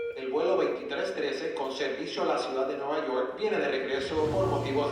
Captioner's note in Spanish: Bip; Voz en altoparlantes